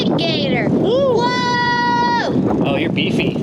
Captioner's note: screaming